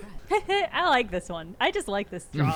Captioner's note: laughs